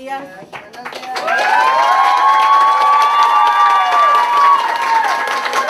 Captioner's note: cheers and applause